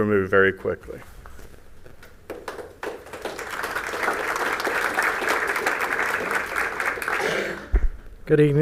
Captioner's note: applause